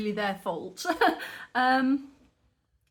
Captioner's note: laughing